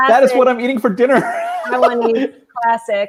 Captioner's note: laughing